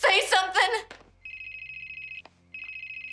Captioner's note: cell phone rings